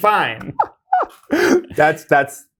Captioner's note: laughing